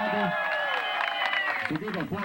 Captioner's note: applause